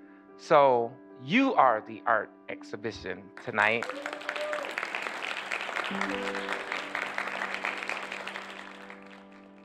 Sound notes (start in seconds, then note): 3.6 cheers & applause